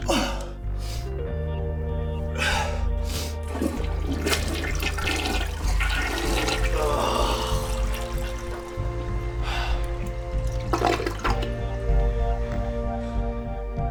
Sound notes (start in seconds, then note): 0.0 Drew groans; 2.3 Drew sighs; 3.4 toilet flushing; 6.7 Drew groans; 9.8 sighing over dramatic instrumental rock music